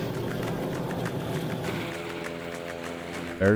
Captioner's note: plane engine whirring